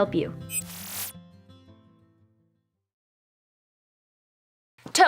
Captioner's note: computer bleeping